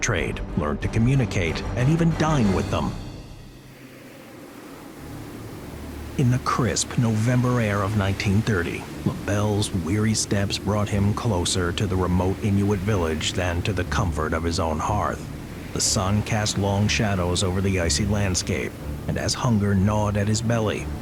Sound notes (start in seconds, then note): 3.2 wind howling